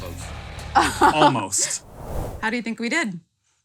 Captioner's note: laughs